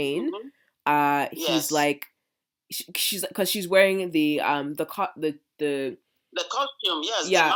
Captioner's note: stuttering